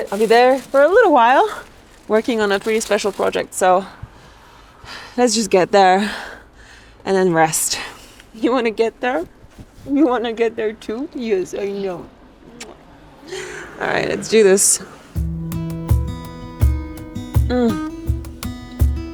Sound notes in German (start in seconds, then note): 12.6 Kuss-Schmatz